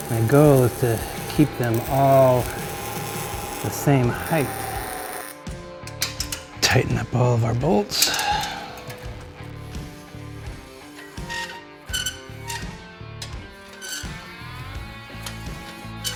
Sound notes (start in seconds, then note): 9.2 intense rock music; 11.5 metal screeches